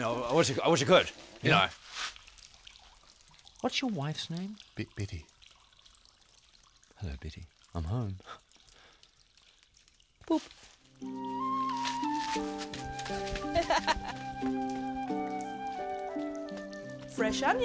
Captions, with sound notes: I wish I could, you know, what's your wife's name? - Biddy. - Hello Biddy, I'm home. Boop! (flute music plays) (laughs)